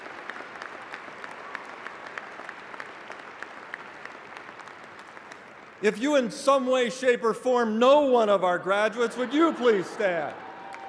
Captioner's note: applause